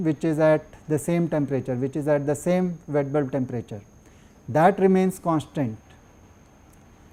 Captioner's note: air conditioning